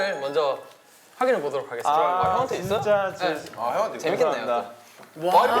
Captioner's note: pit-a-pat